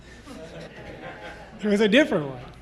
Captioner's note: people laughing